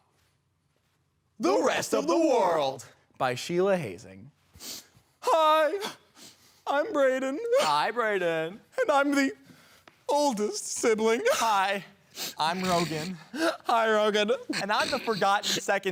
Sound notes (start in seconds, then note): 0.1 soft breathing; 4.5 sniffling